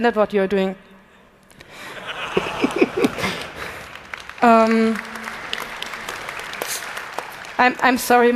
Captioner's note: laughter; applause